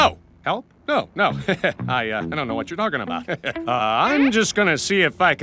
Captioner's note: laughs